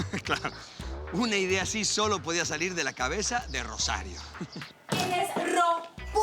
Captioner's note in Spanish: Riendo